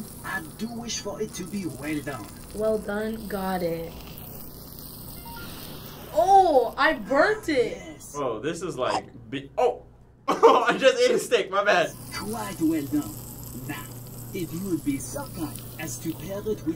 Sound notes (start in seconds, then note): 3.3 steak sizzles; 5.0 gentle beeping; 8.9 munching noise; 10.3 laughing